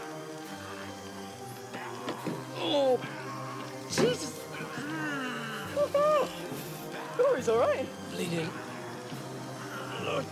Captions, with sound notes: (groaning) - Jesus! - (exclaiming) Look, he's all right! - Bleeding.